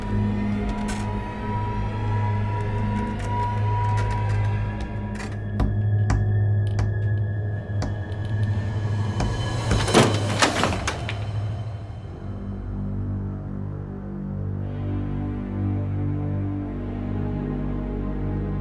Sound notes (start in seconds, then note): 5.0 creaking; 5.0 thumping; 9.1 door opening